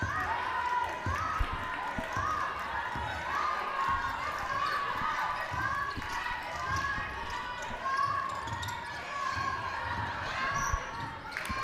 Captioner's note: cheering